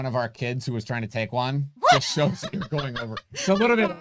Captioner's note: both laughing